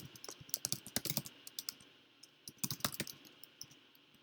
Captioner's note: keyboard clicks